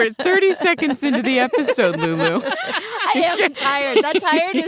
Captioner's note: laughs